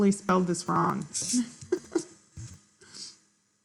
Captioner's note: laughs